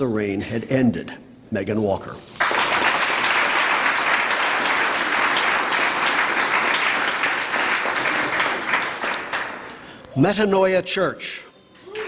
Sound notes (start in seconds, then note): 2.3 applause; 11.8 applause